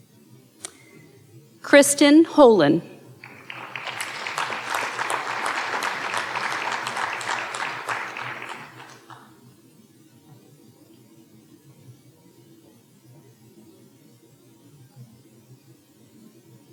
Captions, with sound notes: Kristen Hollen. (audience applauding)